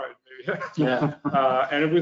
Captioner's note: laughs